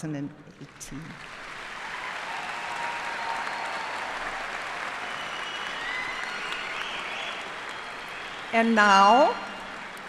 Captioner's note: cheers and applause